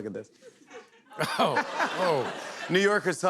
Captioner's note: laughter